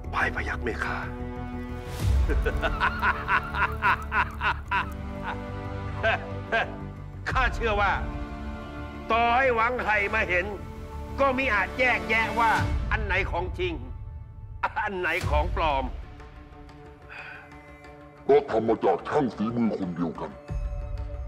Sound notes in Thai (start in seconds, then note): 2.2 เสียงหัวเราะ